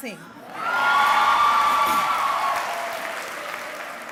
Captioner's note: cheering